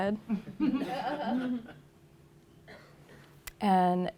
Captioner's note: laughter